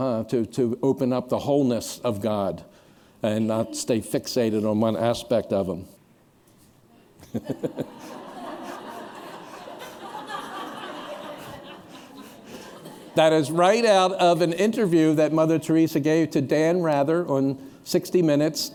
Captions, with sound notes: To open up the wholeness of God and not stay fixated on one aspect of Him. [laughter] That is right out of an interview that Mother Teresa gave to Dan Rather on 60 Minutes--